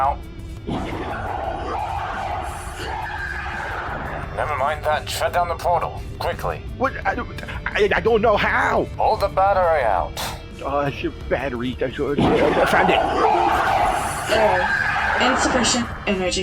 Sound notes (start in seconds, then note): 0.3 Teleporter screeching; 12.3 windows 10 disconnect sound; 13.6 teleporter screeches